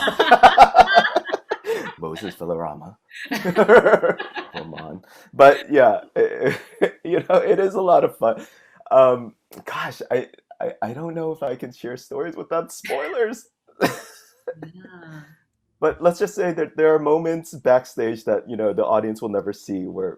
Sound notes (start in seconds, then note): 0.0 laughing